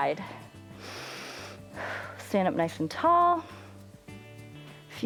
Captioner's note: inhales and exhales